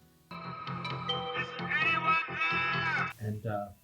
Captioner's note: OC on megaphone